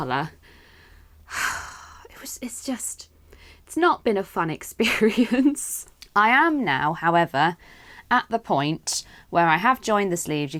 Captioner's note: sighs